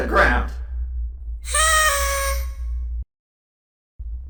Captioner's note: party horn